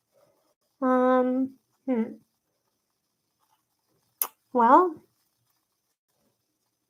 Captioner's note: sucks teeth